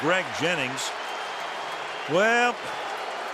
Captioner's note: cheering